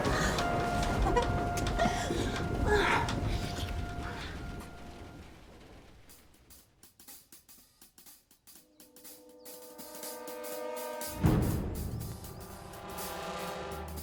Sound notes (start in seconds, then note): 0.0 dramatic music; 2.1 moaning; 9.0 ominous music